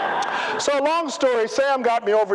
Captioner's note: laughter